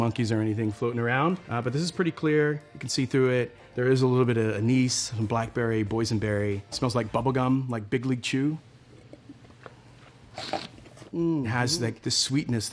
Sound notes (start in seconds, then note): 10.3 slurps and swishes wine